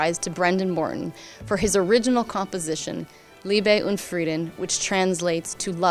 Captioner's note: speaking in foreign language